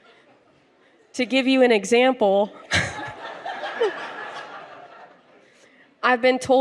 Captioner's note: laughter